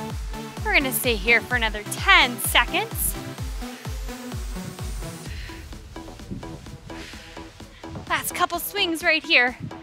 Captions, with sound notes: We're gonna stay here for another 10 seconds. (breaths) Last couple of swings right here,